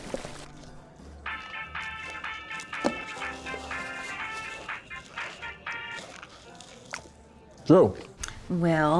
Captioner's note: cell phone rings